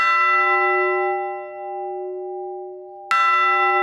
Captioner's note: bright, resonant bell strikes